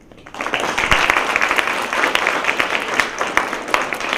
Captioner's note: applause